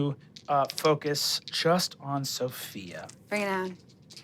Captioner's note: dice clanking